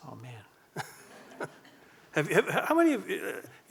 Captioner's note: audience laughing